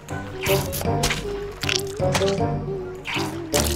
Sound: bottle squirting sound

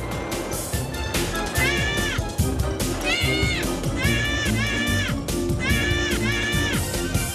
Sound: screaming

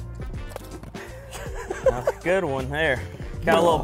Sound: laughs

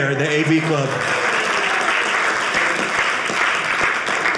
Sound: audience applauding

